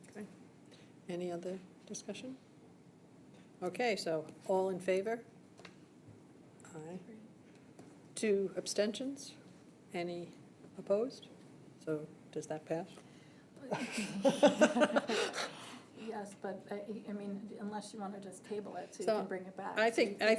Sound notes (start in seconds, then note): 13.7 laughter